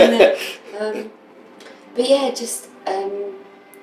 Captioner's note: laughter